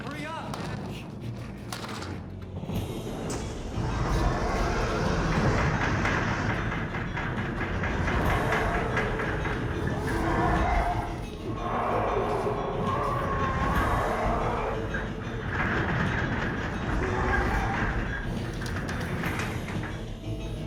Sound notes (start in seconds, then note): 4.2 dramatic music; 4.2 roars